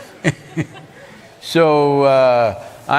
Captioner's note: laughter